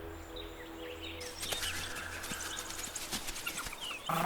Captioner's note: birds chirping